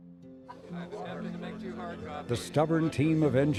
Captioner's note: navigators chattering